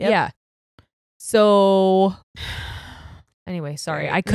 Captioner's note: sighs